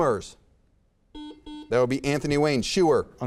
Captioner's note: buzzer beeps